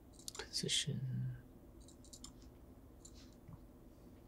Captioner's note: mouse clicking